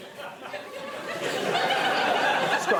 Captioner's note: laughter